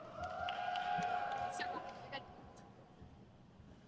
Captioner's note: crowd cheers